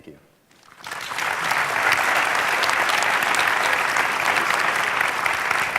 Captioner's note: audience clapping and cheering